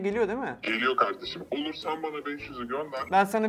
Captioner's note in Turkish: Telefon